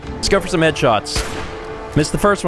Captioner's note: blam!